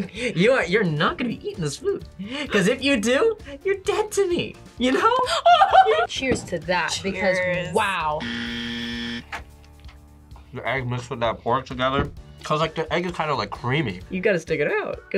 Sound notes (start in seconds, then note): 5.2 laughs; 8.2 buzzer